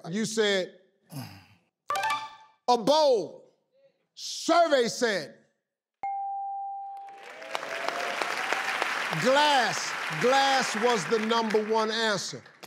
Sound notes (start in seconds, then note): 6.0 bell dings; 7.0 audience applauds